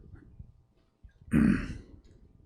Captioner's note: laughs; clears throat